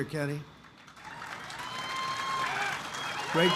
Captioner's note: applause